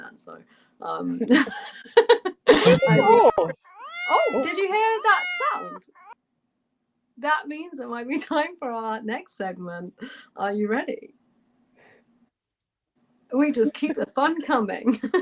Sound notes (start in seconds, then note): 1.2 laughter; 2.6 miaow sound